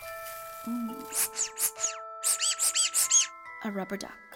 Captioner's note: CATE squeezes a rubber duck